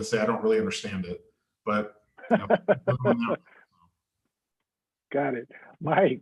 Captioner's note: laughter